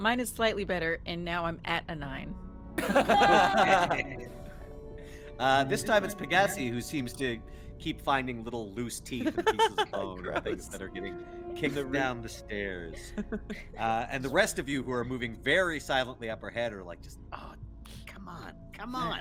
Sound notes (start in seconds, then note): 2.8 laughs; 9.0 Cornette laughs; 12.8 Cornette laughs; 12.9 Calla laughs